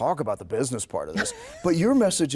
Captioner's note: laughing